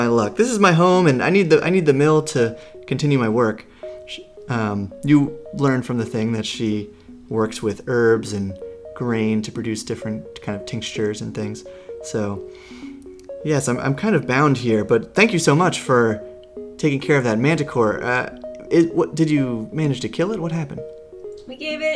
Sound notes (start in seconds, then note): none